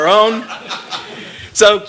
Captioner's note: laughter